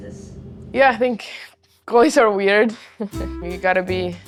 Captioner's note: laugh